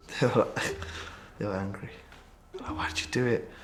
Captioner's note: laughs